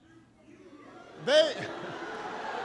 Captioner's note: laughter and applause